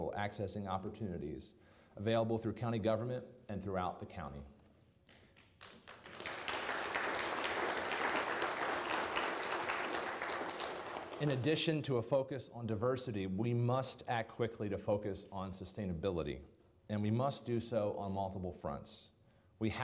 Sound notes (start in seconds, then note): 5.1 people applauding